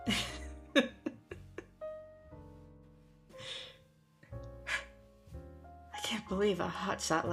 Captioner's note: laughter